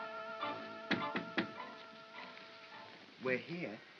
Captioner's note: knocks on box